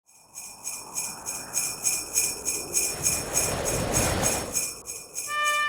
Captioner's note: bells jingling